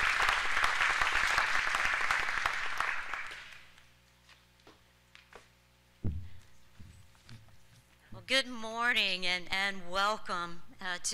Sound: alause

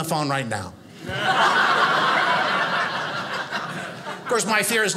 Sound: audience laughing

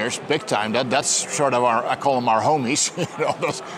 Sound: chuckles

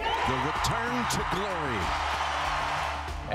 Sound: cheers and Applause

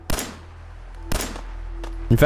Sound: blam!

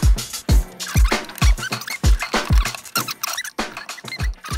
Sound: audio fast forwards

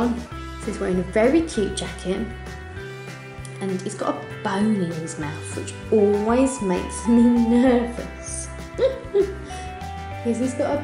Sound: laughs

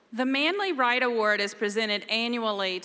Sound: none

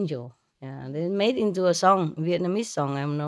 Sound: Vietnamese

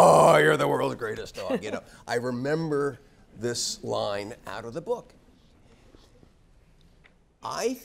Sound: laugh

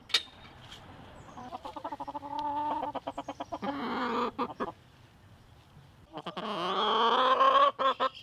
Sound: chickens clucking

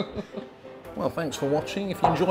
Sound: laughter

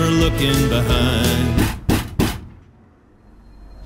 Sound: knocking on door

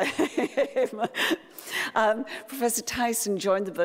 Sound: laughs

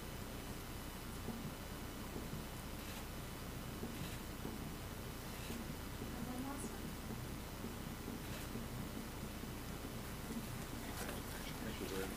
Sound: applause

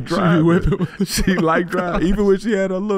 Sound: laughing

